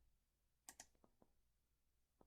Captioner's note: click